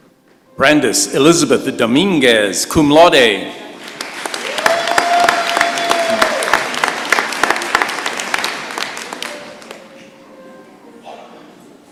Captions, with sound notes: Brandice Elizabeth Dominguez, cum laude. [cheers and applause]